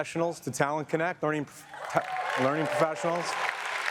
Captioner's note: audience cheers and applauds